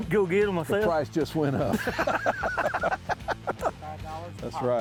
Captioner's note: both laugh